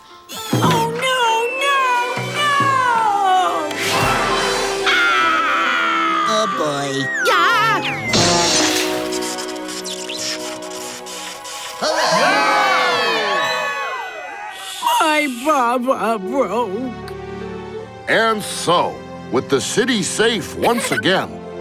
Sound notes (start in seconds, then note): 3.8 screaming; 11.8 cheering